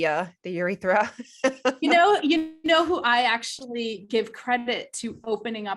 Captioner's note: laughs